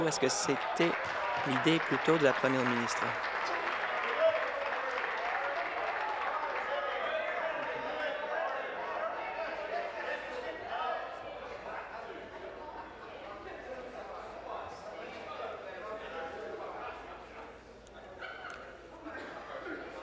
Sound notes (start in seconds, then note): 4.7 applause